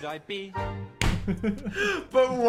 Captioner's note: hand thuds